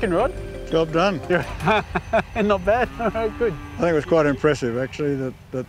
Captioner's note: laughs